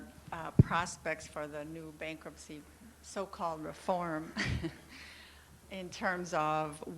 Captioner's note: laughs